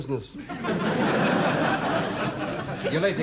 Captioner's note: audience laughs